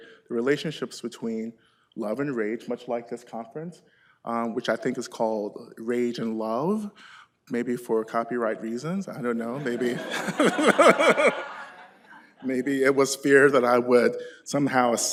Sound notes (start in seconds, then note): 9.5 laughter